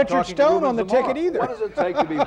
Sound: laughs

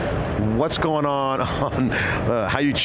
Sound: laughs

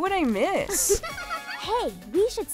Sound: Makayla giggling

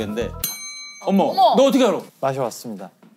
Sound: ding

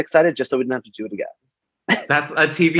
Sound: laughs

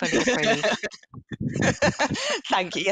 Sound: chuckles

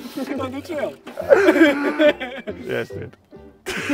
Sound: group laughing

